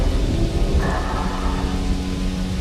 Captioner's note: snarls